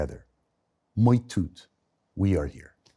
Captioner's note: Liev speaks in foreign language